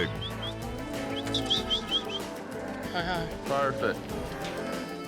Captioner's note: whistling